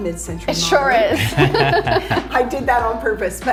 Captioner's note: chuckles